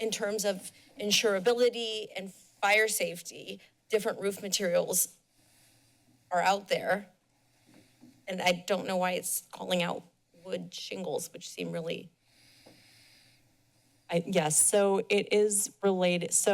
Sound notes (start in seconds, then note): 5.1 pause; 12.5 silence